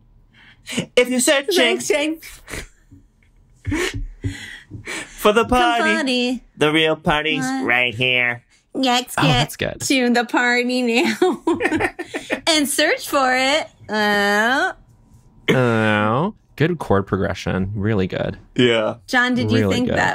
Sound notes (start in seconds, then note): 3.7 giggling; 6.4 robotic voice; 11.0 laughter; 13.7 mimics robot powering down